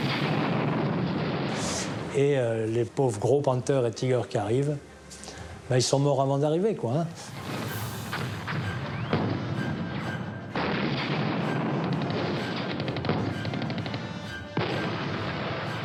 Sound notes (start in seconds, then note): 0.0 explosion booms; 10.5 gun fires; 10.9 explosion booms